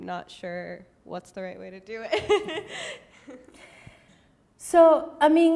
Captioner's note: laughs